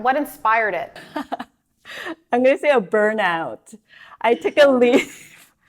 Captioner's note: laughs